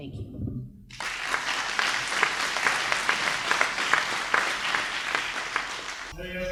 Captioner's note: applause